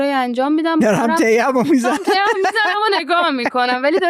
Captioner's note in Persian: خنده